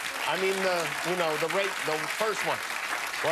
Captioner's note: applause